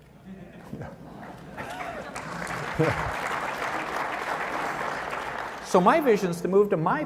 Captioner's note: laughter, applause